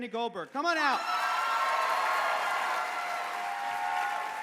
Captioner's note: cheering